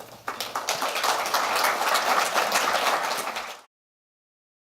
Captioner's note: audience applause